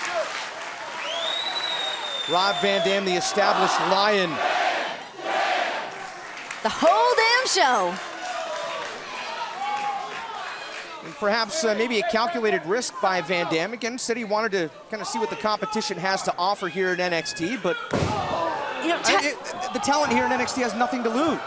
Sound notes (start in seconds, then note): 8.5 fans chanting